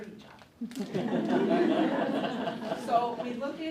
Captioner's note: audience laughing